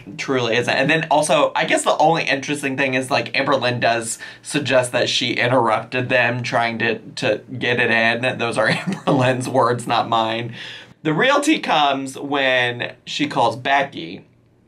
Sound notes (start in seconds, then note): 7.6 laughs